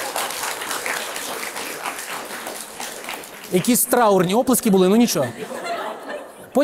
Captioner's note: applause